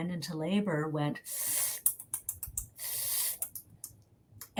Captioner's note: hissing